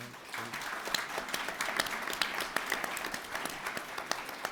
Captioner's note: people applauding